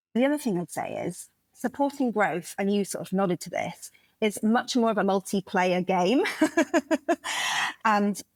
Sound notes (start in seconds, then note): 6.3 laugh